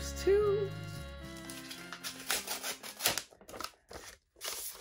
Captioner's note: envelope opening